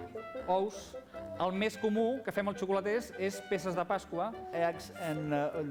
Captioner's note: non-english speech